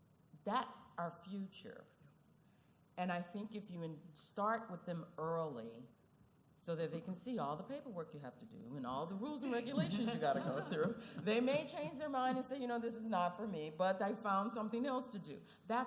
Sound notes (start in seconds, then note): 9.6 laughing